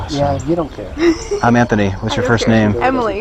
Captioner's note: laughs